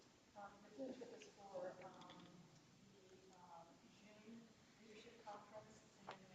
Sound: speaks distantly

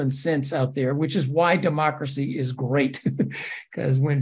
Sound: laugh

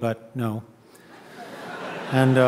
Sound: audience laughing

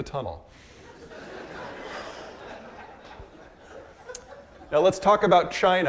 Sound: audience laughing

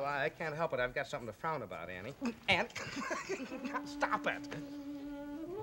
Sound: laughing

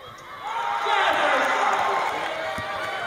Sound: cheers

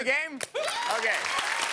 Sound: applause; cheering

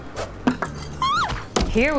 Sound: screeches in fear

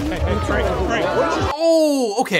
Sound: people yelling

